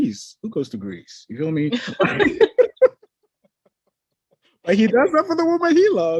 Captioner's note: both laughing